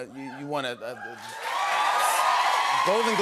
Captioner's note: cheers and applause